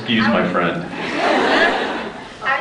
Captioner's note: scattered laughs